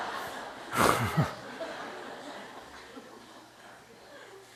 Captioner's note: audience Laugher